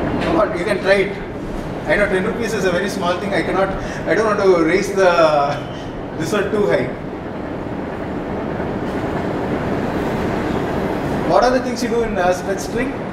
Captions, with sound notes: What? You can try it. I know 10 rupees is a very small thing. I cannot, I don't want to raise the [Laughter] this one too high. What are the things you do in a stretch string?